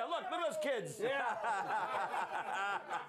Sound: laughter

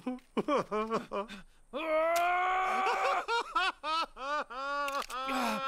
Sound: both Screaming

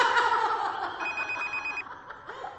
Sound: phone ringing

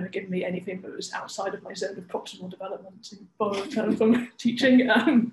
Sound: laughs

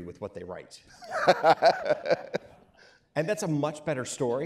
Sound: laughing

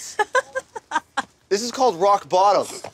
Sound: laughter

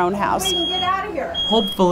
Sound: smoke alarm sounds

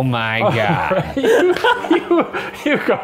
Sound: laughter

